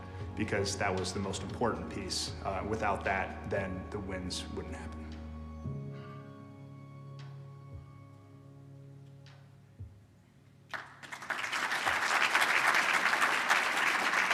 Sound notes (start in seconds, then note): 9.0 applause